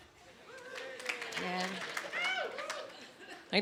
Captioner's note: sparse clapping